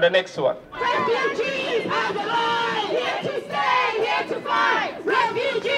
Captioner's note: chant